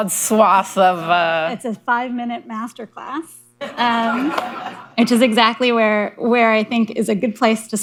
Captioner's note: laughter